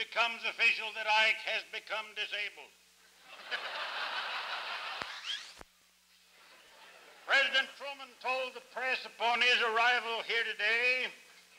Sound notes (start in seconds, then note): 3.2 laughter